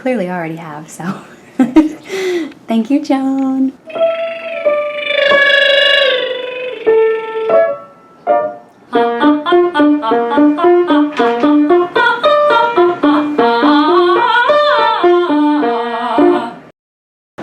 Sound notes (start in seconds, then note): 3.9 lip thrills; 10.6 sings